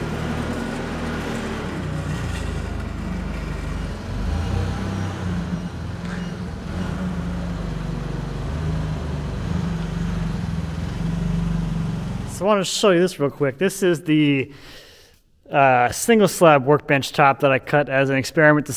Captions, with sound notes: (engine purring) (forklift beeping) (engine purring) So I wanna just show you this real quick. This is the single slab workbench top that I cut as an experiment